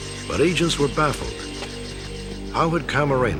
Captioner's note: none